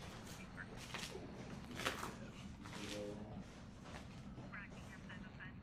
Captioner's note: cop radio chattering